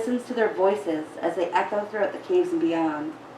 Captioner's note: none